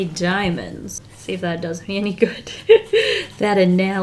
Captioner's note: laughs